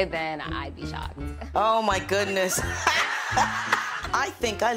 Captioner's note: laughing